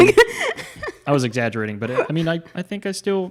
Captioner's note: laughs